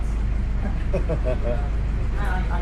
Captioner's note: laughs